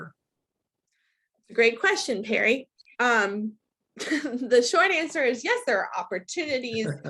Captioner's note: laughs